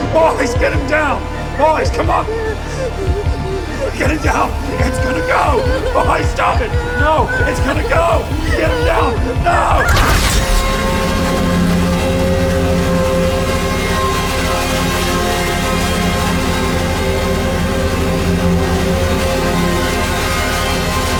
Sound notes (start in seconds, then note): 2.5 music rising; 3.0 heart beat pounding; 6.1 evan wailing